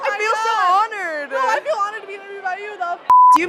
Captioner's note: beep